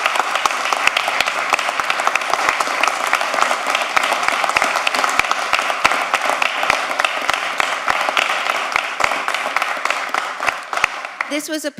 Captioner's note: applause